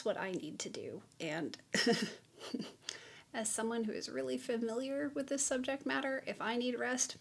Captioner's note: chuckles